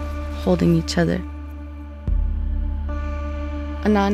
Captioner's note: grandchild speaking in Inuktitut